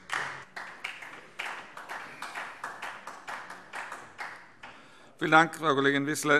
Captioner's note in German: Beifall DIE LINKE